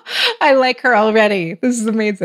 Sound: laughs

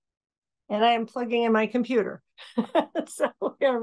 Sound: laughing

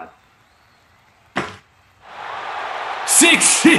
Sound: audience cheers

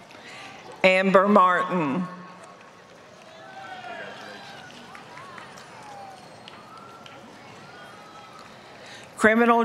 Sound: applause; applause

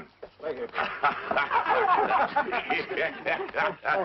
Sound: laughing

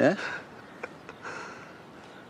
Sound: laughs

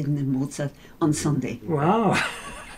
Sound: laughs

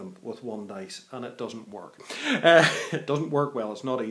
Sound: laughs

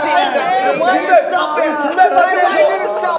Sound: laughs

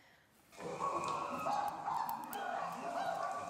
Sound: chimp calling

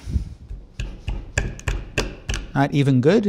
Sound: banging

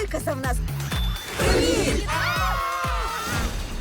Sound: all screaming

